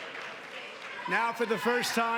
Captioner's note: applause